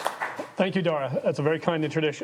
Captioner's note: people applauding